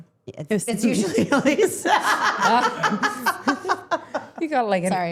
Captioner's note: laughing